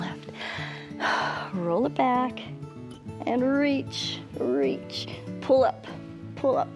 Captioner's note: exhales